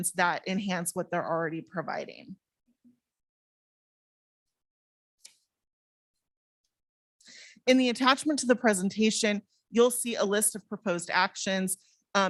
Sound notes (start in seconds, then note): none